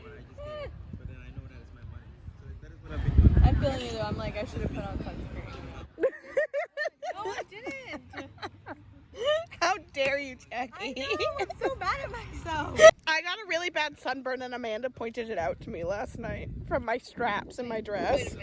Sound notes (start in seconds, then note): 6.0 giggles